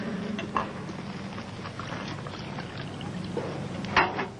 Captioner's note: cups rattling